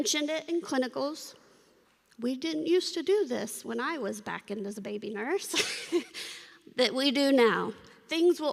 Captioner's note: laughter